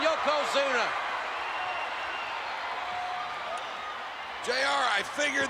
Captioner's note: spectators cheering